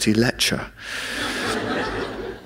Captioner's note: laughter